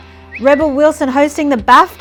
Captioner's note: lips whistle